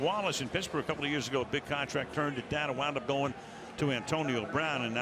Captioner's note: none